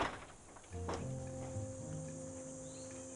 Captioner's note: door bangs